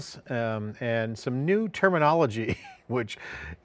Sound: chuckles

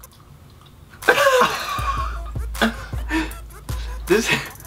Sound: laughing

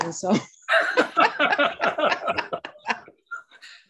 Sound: all laughing

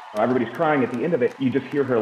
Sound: cheers and Applause

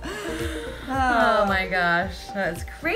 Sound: sighing

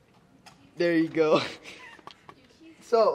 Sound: laughter

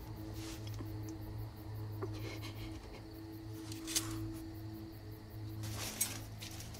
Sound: faint breathing

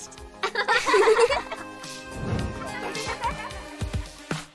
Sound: girls laugh

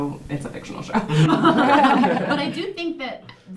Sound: all laughing

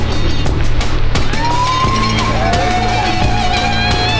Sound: uplifting music; crowd; uplifting music

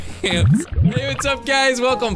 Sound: bubbling water

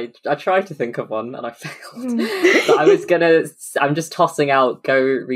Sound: laughing

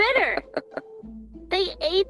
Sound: chuckles

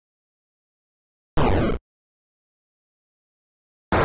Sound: copyright-free 8-bit explosion

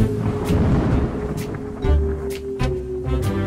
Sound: thunder roars; whimsical music

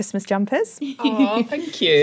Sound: laugh

